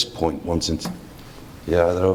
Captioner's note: tapping sound